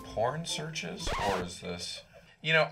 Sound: record scratches

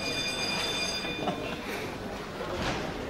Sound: bell rings

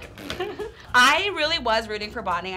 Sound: laughing

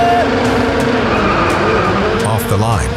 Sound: cars revving

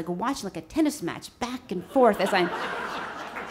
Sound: audience laughs

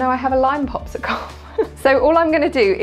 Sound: instructor laughing

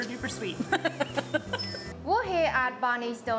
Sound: laughs

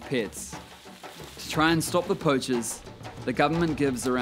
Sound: leaves rustle

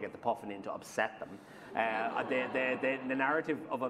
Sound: laughter

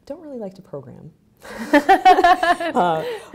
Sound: laughing

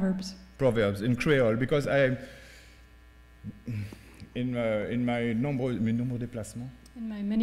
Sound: speaking french

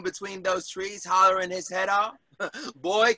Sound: giggles

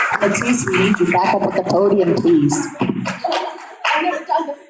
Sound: audience clapping

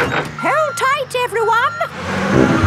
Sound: bus beeping

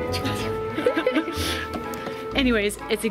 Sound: laughter

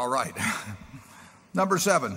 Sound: laughs

